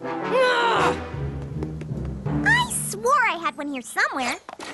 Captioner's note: none